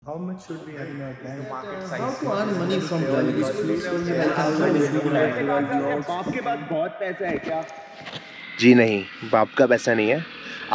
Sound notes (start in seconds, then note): 3.4 speaking in unison